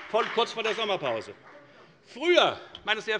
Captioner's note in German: Beifall bei der FDP